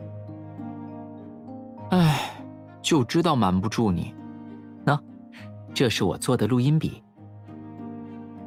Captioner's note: sigh